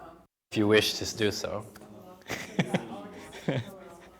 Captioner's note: chuckling